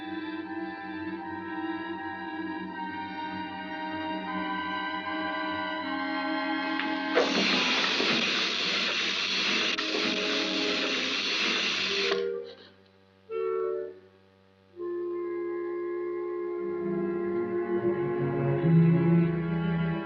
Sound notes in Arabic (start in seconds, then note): 7.2 زحف الدمية و تُصدر صوتًا مزعجًا